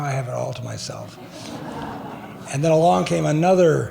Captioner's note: laughing